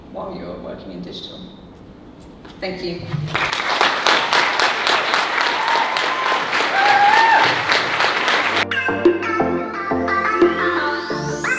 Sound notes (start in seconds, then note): 3.3 audience cheering; 8.2 upbeat music